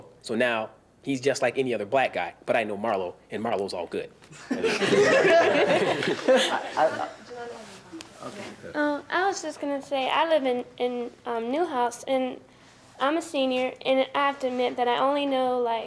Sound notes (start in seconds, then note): 4.4 panel laughs